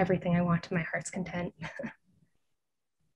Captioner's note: chuckles